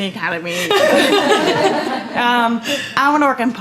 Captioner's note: laughter